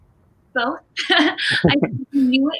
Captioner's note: laughs